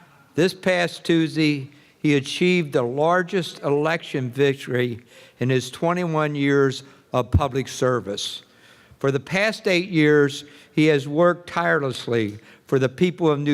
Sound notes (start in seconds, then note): none